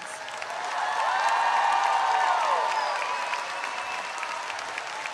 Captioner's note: audience cheering and applauding